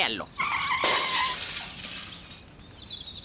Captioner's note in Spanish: Sonido de choque